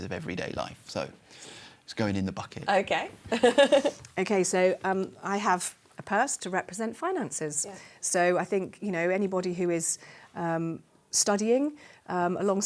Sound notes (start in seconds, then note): 3.3 laughs